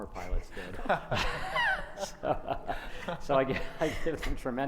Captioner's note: panel laughs